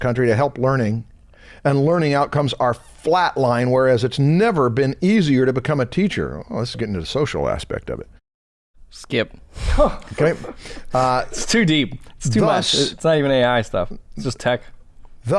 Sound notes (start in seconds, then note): 9.6 chuckles